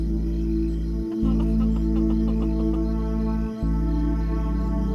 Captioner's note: sobbing